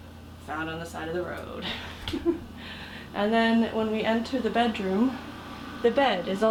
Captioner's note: giggle